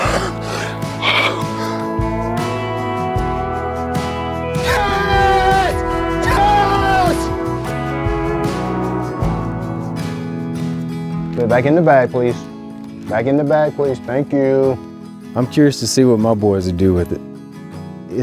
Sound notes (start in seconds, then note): 0.0 man panting; 4.8 man shouting